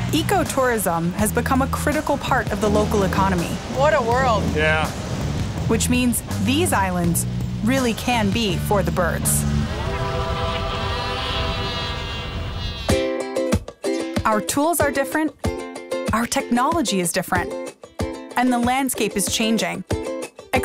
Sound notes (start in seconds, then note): 9.7 albatross cawing; 12.9 upbeat music